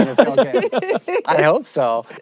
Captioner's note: both laugh